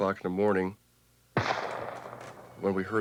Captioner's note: gunshot